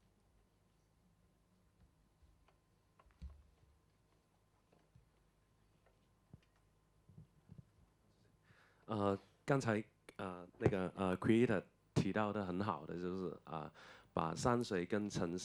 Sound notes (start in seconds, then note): 10.3 Mandarin